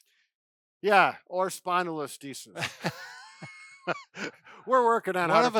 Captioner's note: laughing